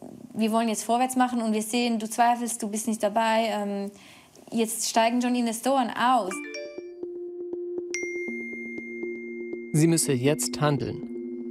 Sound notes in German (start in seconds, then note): 6.3 Benachrichtigungston